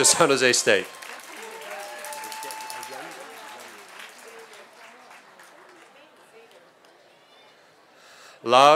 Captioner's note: applause